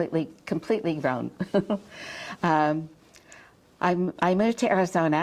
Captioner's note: chuckles